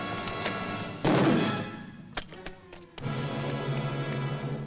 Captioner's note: pole bangs